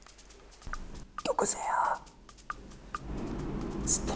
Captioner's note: whispering